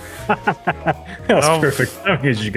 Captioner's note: laughs